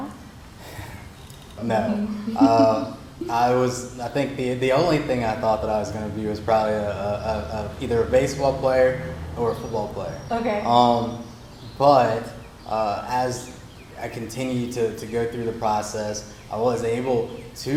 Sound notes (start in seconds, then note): 2.2 laughs